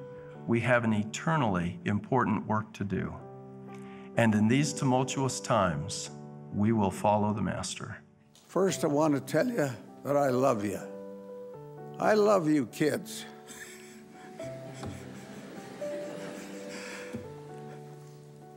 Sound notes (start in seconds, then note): 13.0 laughing; 15.8 soft music